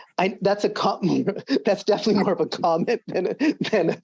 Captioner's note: laughs